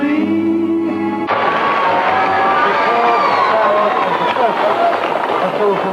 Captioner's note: cheers and applause